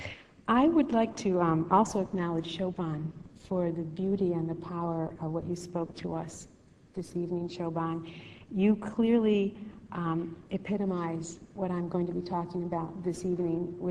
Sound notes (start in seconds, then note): none